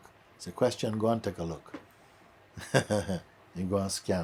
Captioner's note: laughs